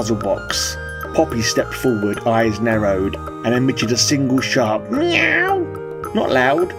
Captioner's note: meow